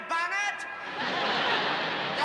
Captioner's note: laughter